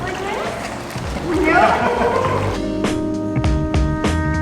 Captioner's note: laughter